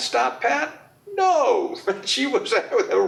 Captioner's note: laughs